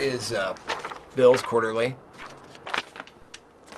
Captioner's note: paper rustles